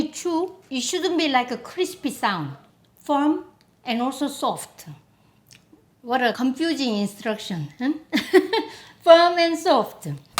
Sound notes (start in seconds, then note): 8.6 laughs